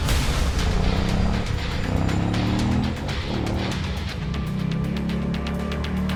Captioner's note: motorcycle engine revs; slow music